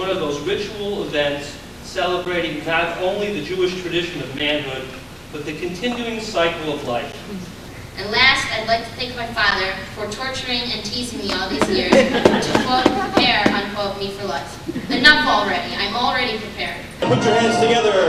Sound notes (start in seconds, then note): 11.0 laughing